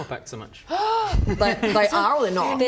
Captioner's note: gasp